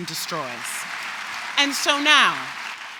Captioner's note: applause